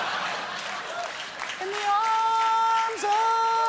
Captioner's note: laughter; applause